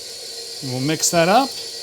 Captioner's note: whirring